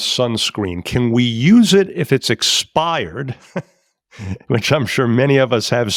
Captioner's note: chuckles